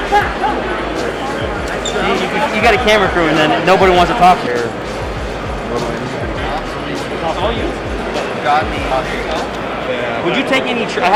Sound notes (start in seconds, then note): 0.0 laughing; 5.3 chattering